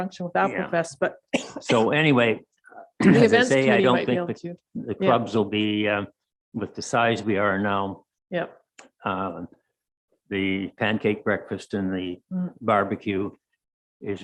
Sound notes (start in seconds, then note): 1.3 coughing